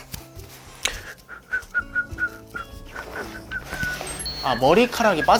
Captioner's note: whistling naturally